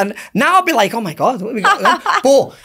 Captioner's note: laughs